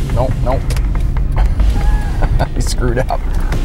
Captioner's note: laughs